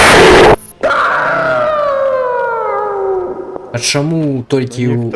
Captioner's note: screamer in left ear